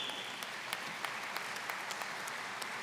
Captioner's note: applause